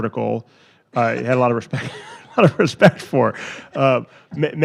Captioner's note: laughs